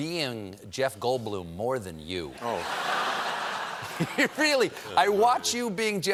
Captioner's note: laughter